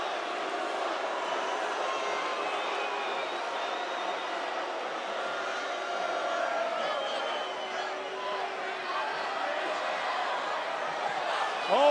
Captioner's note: crowd chants